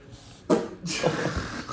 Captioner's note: fart